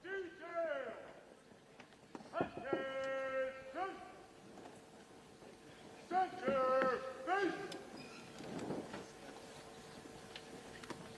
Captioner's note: speaking french